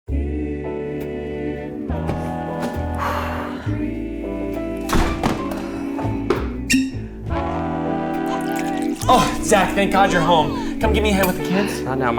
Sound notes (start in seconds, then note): 3.3 sighs; 4.8 door shuts; 6.5 cork pops; 8.1 whiskey pouring